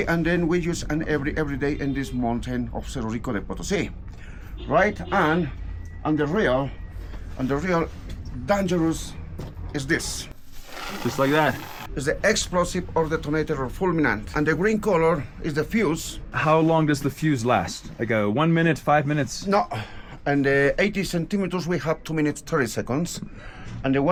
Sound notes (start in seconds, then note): 3.2 foreign language; 10.4 dynamite crackles